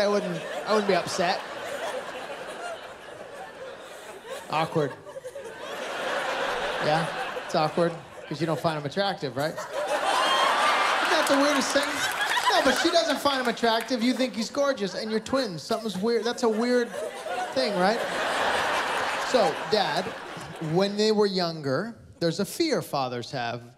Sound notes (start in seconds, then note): 2.5 laughter; 5.7 laughter; 9.8 laughter